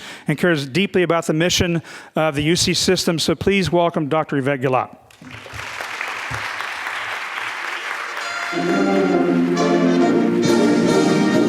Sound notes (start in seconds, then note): 5.1 students clapping; 8.2 rousing band music